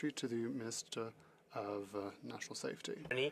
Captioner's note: speaking French